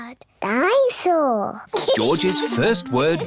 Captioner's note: giggles